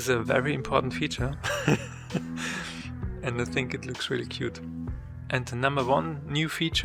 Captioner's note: almost dies from laughter